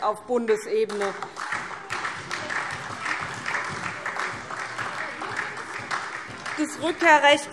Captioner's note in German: Beifall SPD